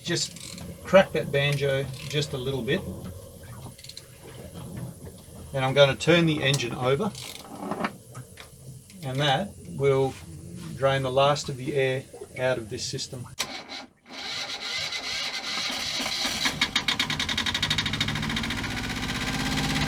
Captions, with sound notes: Just crack that banjo just a little bit. (cranking) Now, I'm gonna turn the engine over and that will drain the last of the air out of this system. (engine turning over) (engine puttering)